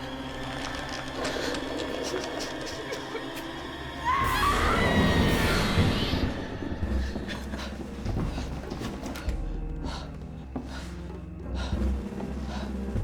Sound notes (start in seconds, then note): 3.0 Claire whimpering; 4.0 Claire screams; 10.0 suspenseful music